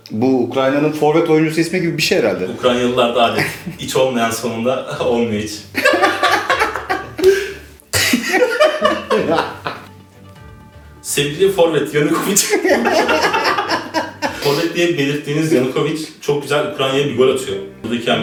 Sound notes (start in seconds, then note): 5.7 laughter; 12.1 laughter